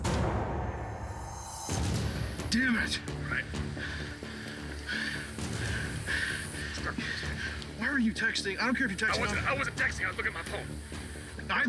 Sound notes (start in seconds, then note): 0.5 dramatic sound